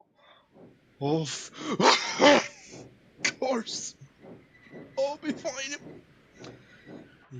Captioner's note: coughs